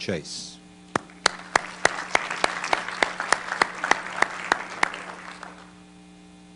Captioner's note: applause